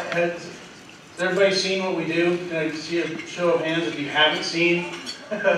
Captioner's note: laughter